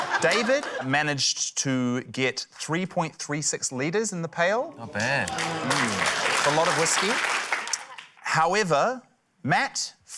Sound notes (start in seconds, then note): 5.0 applause